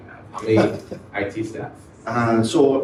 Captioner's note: laughs